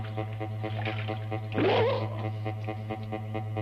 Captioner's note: shriek